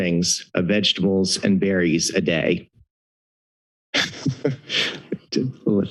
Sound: laughs

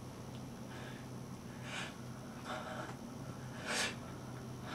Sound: breathing nervously

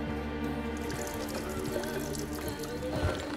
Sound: milk splashing

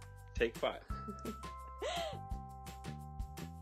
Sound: laughs

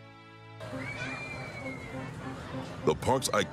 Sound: people screaming and chattering

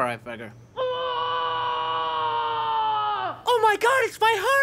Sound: screaming in distance

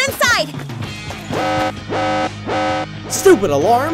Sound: alarms beeping

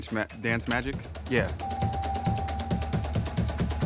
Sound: bell ringing; marching band music

